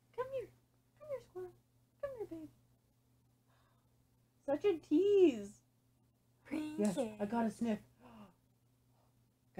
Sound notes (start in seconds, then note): 3.4 gasp